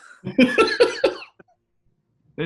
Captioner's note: laughing